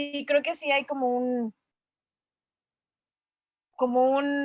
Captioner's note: pause